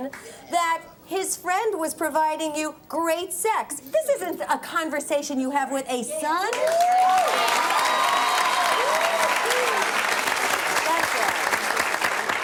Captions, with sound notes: That his friend was providing you great sex. This isn't a conversation you have with a son. (audience applauds)